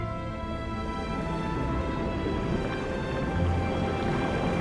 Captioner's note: water rumbling